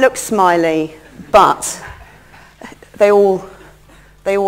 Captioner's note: laughter